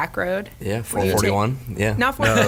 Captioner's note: laughs